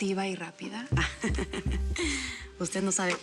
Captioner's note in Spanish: risas